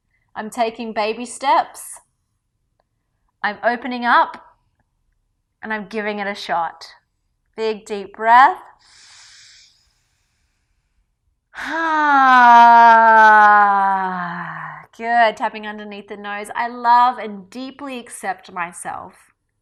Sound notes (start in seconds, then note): 9.8 sighs audibly